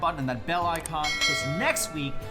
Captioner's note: bell chimes